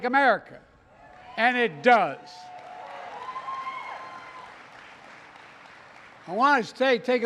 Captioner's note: applause